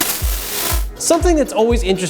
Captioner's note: buzzing feedback